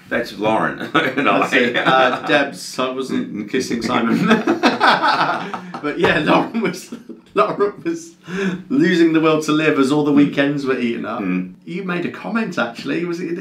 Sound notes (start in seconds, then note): 4.0 both men laugh